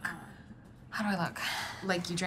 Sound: whispers; sigh

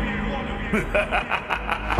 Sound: evil laugh

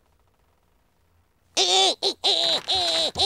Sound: grunting; chuckles

